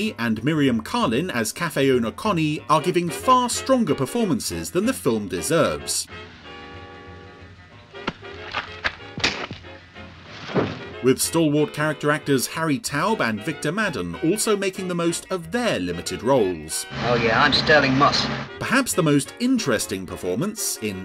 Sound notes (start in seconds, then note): 6.3 upbeat jazz music; 8.8 loud punch; 10.1 body thumps